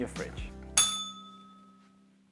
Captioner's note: bell rings